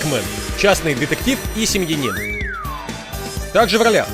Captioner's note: wolf whistles